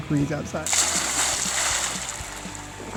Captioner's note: splash